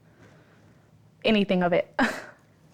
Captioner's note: chuckles